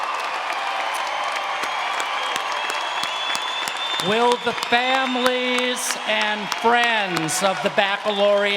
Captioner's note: cheers and Applause